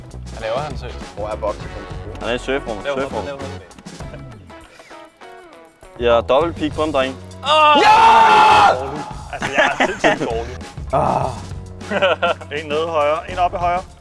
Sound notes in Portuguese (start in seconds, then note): 7.2 Gritando; 10.8 Suspiro